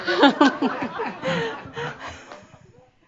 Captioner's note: more chuckles